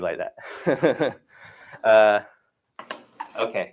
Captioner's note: chuckles